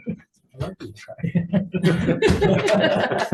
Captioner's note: all laughing